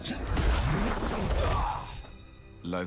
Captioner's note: groans